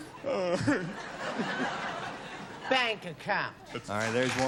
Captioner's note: sobs